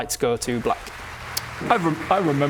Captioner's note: applause